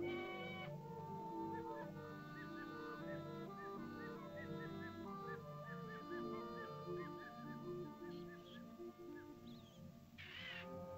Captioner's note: soft ominous music; birds chirping; bird squawks